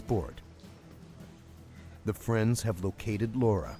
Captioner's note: voiceover